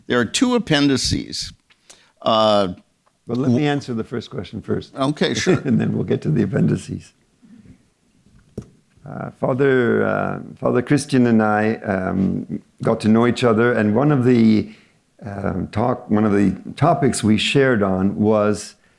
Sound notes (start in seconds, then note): 5.3 chuckles